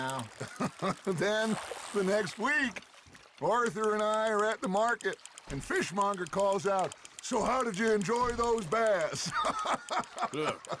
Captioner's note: laughs